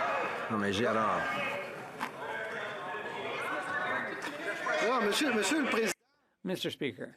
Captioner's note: yelling